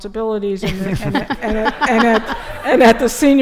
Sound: laughter

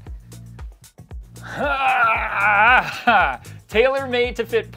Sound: groaning

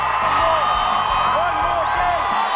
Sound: cheering

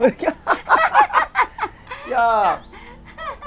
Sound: both laughing

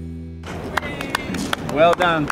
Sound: clapping

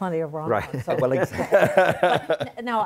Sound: laughter

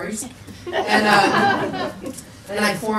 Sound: people laugh

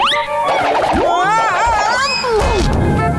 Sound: groaning

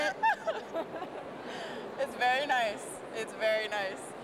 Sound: laughs

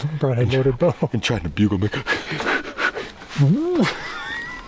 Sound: makes heavy breathing noises; laughing

